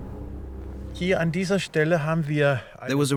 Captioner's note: speaking German